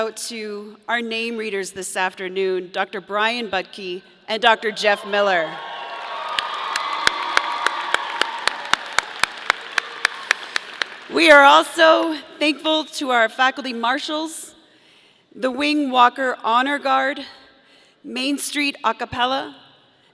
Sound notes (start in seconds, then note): 5.6 audience applauding; 6.5 audience cheering